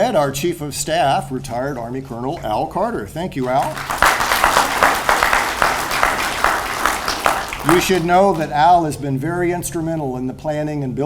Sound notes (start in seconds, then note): 3.4 audience applauds